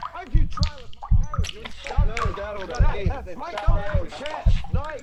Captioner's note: heartbeat